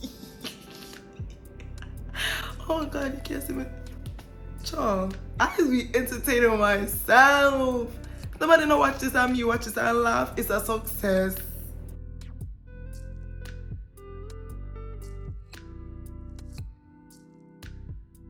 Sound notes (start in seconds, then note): 0.0 laughs; 7.6 jamaican Patois